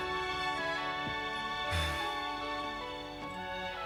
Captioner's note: sighs